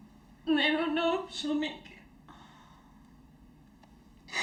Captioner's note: crying